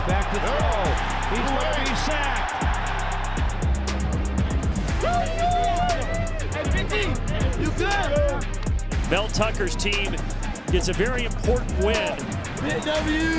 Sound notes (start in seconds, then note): 3.1 crowd cheering; 5.2 whooping